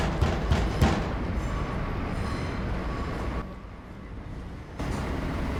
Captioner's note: Sonny continues knocking; traffic roaring